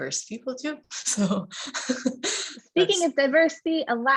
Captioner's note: laughs